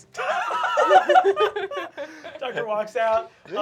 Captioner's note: laughter